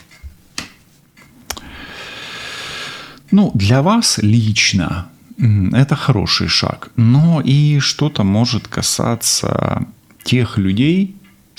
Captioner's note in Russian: вздыхает